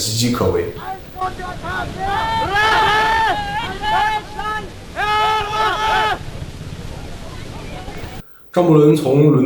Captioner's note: shouting